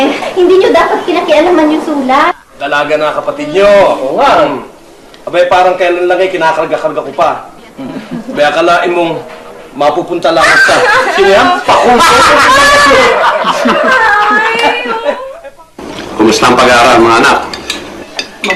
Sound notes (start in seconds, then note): 10.2 shrieks; 10.5 laughter